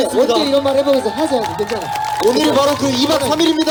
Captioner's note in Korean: 함성